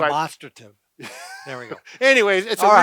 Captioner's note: laughing